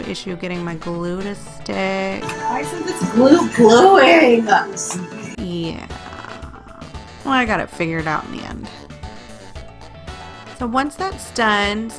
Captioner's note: yelling